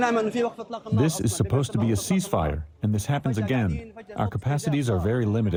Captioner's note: through translator